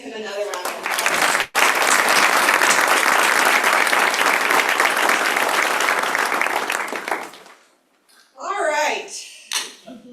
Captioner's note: applause